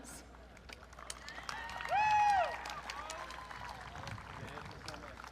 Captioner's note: audience cheering